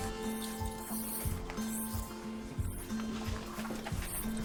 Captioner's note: broom rustling